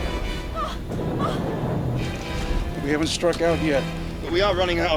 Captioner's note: whimpering